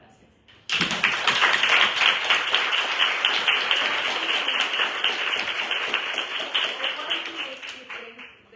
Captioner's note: applause